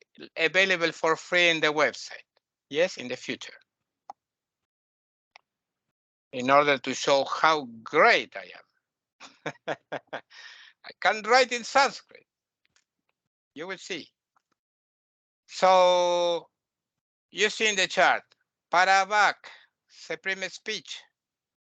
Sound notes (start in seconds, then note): 9.2 laughing